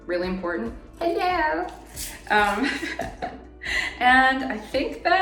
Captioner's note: laughs